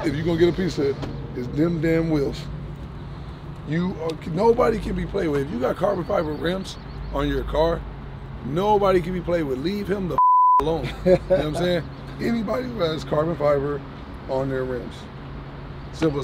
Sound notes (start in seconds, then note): 10.1 beeps; 10.7 laughing